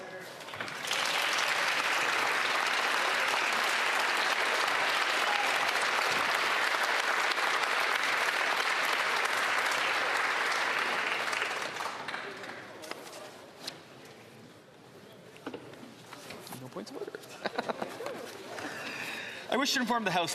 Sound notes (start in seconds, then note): 3.9 applause